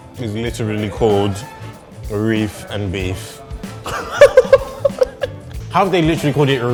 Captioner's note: laughing